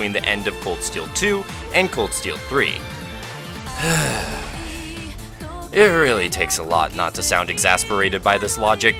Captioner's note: sigh